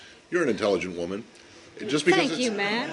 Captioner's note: laughter